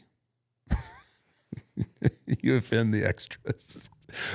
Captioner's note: Undertaker chuckles